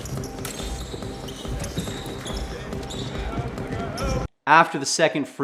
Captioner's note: basketball ring squeaking; tennis shoes squeaking